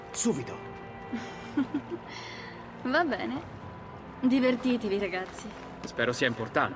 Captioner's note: laughs